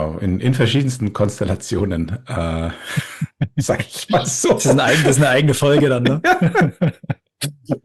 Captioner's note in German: gelächter